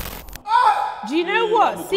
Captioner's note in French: Eeeeeeeehhhh !!!